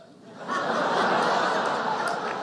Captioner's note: laughter